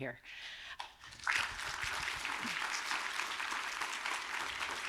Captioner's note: audience applauding